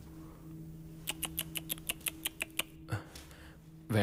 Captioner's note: Clicks tongue